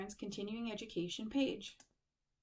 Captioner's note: click